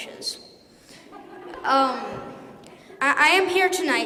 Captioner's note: laughter